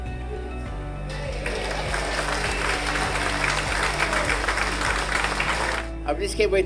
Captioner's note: applause